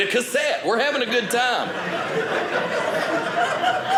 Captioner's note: audience laughing